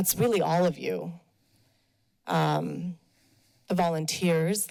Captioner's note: pause